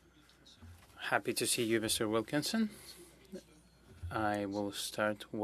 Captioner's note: speaking French